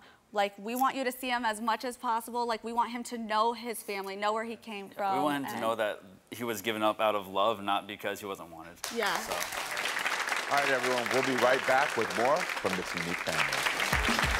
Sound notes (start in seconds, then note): 8.8 audience clapping